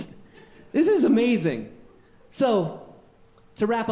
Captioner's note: audience laughing